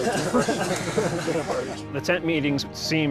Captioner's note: laughter